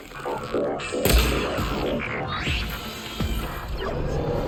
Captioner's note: machine droning